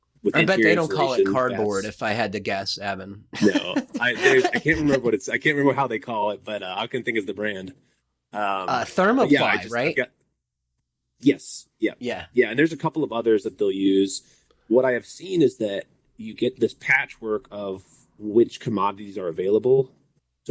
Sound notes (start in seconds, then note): 3.3 laughs